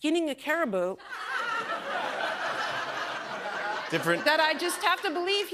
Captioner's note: laughter